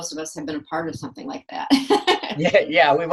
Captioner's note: laughs